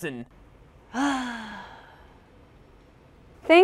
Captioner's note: sighs